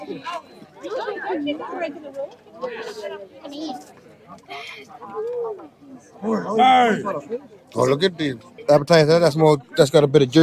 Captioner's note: people chattering